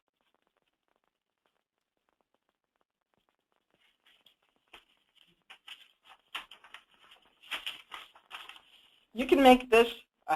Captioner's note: pause with rustling papers